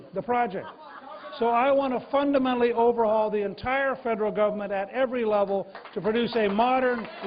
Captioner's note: applause